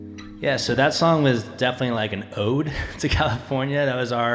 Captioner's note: chuckling